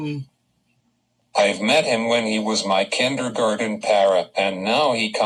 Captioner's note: voiceover